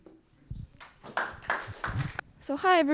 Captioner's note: audience clapping